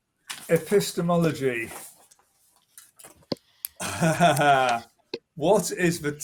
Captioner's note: laughs